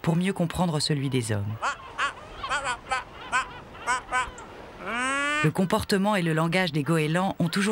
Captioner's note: laughs